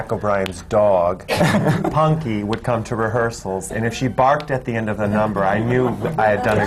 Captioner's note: laughter